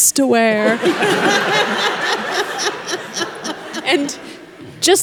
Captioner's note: congregation laughing